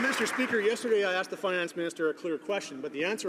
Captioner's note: some Applause